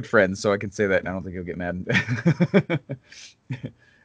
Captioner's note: laughs